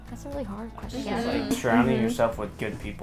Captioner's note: all muttering agreement